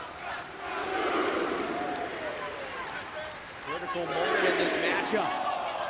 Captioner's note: crowd chatter